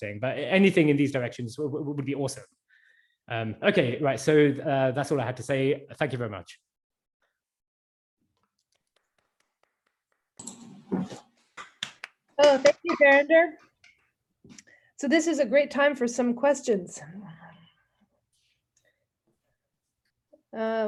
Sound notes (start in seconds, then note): 11.5 clapping